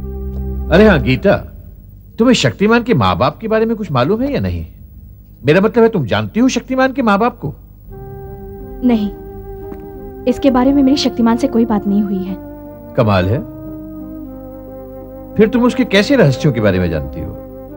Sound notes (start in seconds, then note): none